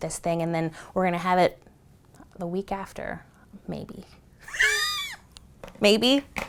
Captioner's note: laughs